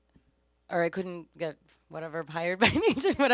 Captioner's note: laughs